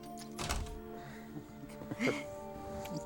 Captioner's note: both chuckling